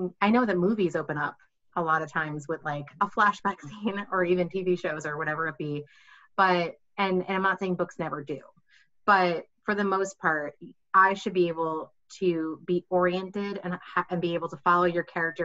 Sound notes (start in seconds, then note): none